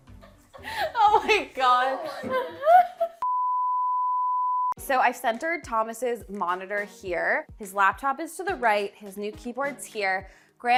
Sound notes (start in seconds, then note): 3.2 sine tone